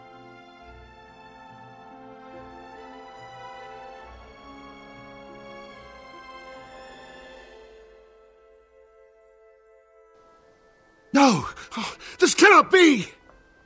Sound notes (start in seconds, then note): 11.2 moan